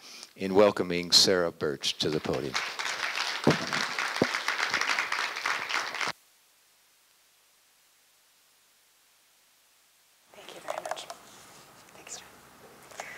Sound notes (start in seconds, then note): 2.0 clapping